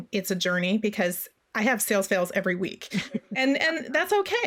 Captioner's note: laughs